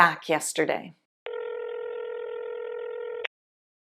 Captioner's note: phone ringing